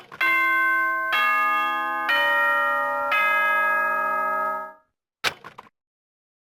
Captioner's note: ding dong...dang dong